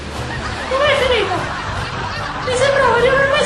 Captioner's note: laughter